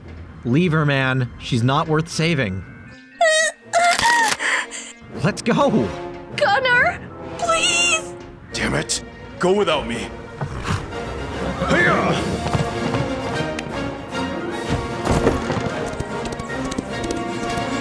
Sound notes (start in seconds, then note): 2.9 struggles, gasps